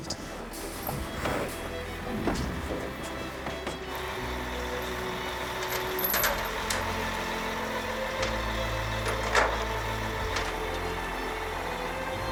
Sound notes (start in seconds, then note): 4.4 lorry engine idles; 9.3 chains clanking